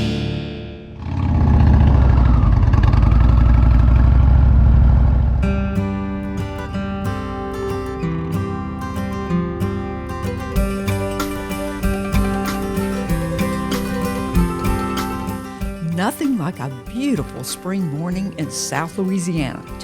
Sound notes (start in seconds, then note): 1.6 engine roaring; 6.2 peaceful music